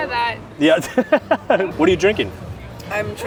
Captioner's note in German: lacht